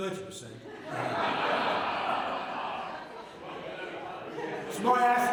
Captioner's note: laughter